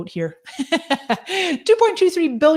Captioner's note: laughs